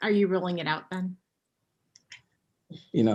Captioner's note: chuckling